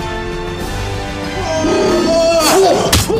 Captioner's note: roars; gasps